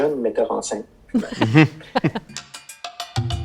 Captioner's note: laughter